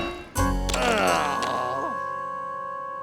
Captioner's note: groaning; clanking